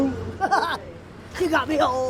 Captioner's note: officer laughs